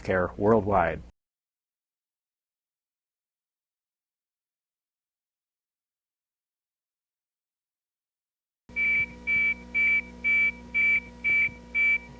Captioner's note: continuous beeping sound